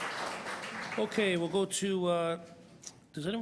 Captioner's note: applause